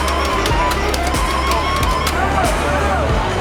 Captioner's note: beeping, chiming